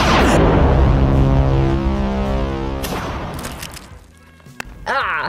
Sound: electronic whirring

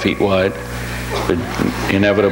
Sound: audience laughs

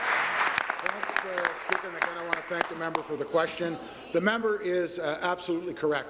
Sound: applause

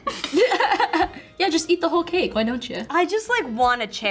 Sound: laughs

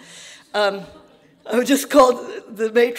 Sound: audience laughing

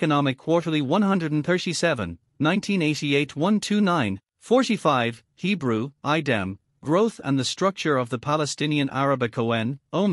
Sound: Hebrew

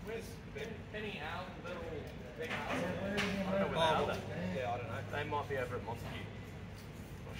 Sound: indistinct chatter from tradesmen

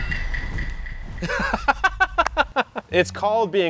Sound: laughs

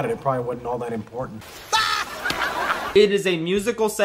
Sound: Woody Laughing with Laugh Track

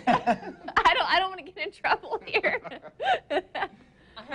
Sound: laughs

